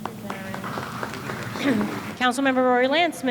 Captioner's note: applause